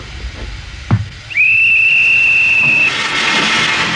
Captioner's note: whistle blows